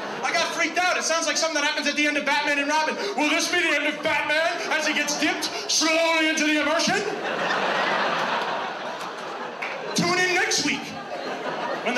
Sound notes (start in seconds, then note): 7.6 audience laughs